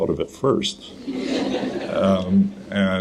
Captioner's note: audience laughter